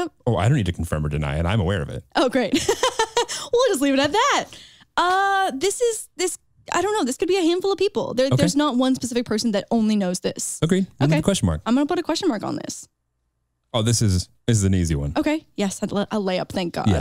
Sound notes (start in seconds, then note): 2.5 chuckles